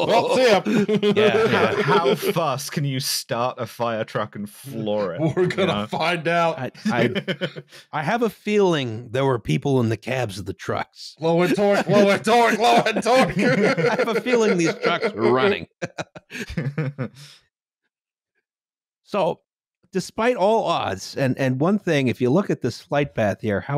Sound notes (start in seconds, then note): 4.8 laughing; 7.3 laughs; 11.4 all laughing; 17.2 chuckles